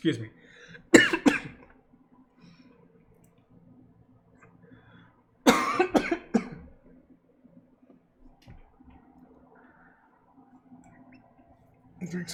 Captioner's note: cough